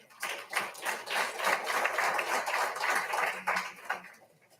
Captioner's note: all applauding